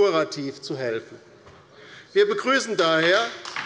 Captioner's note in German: Beifall bei der LINKEN